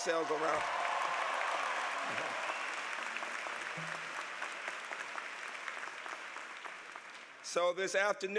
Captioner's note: applause